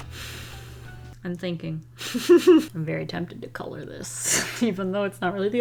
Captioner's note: giggles